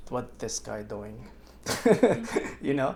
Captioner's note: laughs